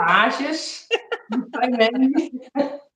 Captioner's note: laughs